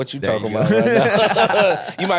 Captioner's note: laughing